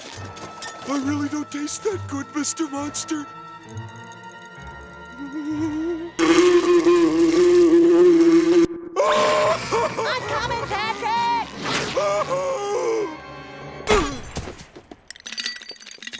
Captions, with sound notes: I really don't taste that good, Mr. Monster. [buzzing] [screaming] I'm coming, Patrick! [screaming] [thudding]